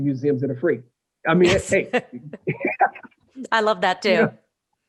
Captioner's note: laughter